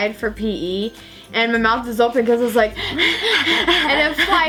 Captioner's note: breathing hard